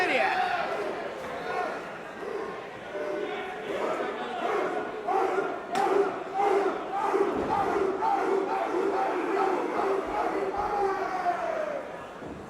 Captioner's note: crowd cheering